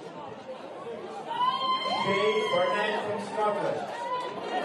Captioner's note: crowd cheers